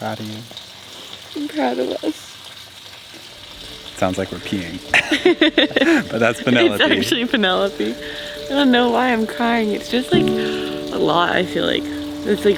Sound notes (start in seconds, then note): 2.6 water running; 4.8 both laugh